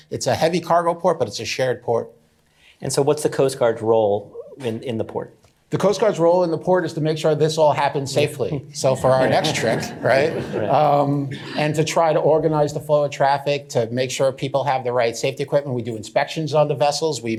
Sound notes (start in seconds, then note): 8.4 chuckling; 8.4 laughter